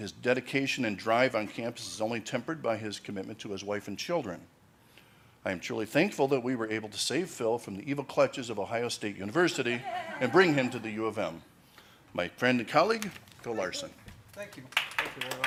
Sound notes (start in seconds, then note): 9.5 laughing